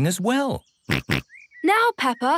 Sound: snorts

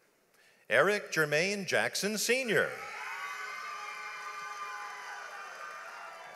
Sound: audience applauds

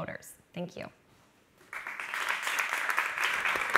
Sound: applauding

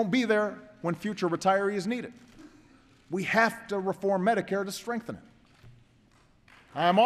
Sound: applause

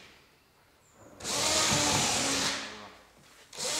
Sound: cordless screwdriver whirring

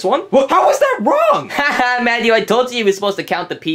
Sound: laughs

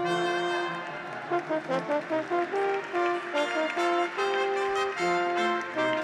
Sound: audience applauds; graduates cheer

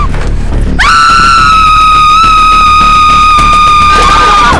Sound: screams

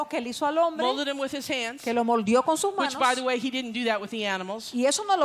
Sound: Spanish; Spanish

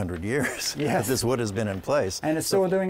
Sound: laughter

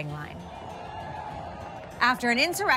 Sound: crowd shouting

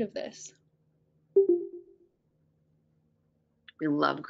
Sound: computer dings

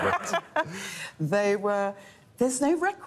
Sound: laughter

